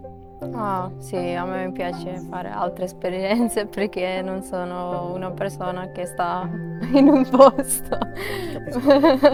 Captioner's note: laughs